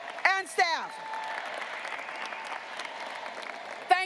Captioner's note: graduates applauding